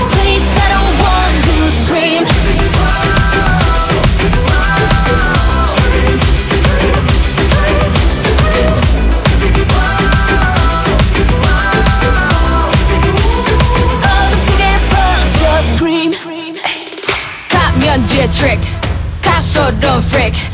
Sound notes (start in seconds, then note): 5.6 scream scream scream scream